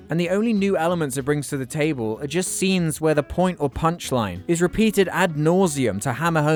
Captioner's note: none